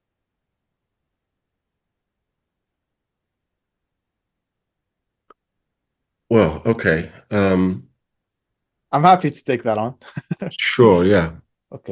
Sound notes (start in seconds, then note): 10.0 laughs